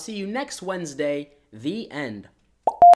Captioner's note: popping noise